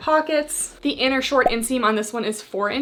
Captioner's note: graphics beeping